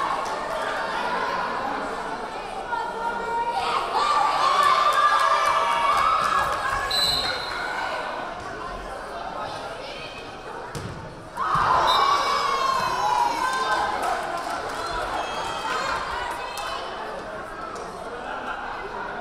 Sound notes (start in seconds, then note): 6.9 whistle blaring; 11.3 crowd cheering; 11.8 whistle blaring